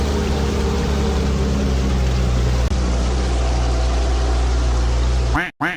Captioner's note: car engine rumbling continues; quack quack